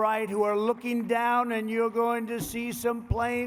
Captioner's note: applause